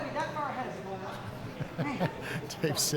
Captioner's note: laughing